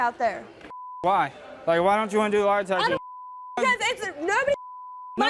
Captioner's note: beep